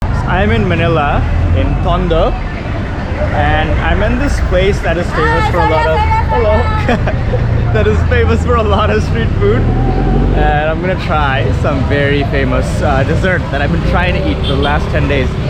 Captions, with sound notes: So, I'm in Manila in Tondo, and I'm in this place that is famous for a lot of... - (Foreign language) Hello. That is famous for a lot of street food. And I'm going to try some very famous dessert that I've been trying to eat the last ten days,